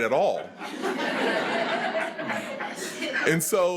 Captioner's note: attendees laughing